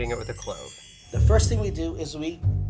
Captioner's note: bells chiming